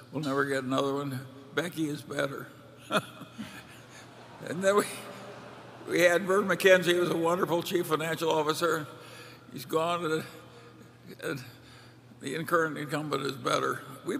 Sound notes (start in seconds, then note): 2.9 laughter